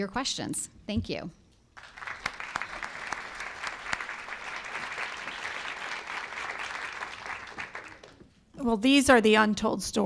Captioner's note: applause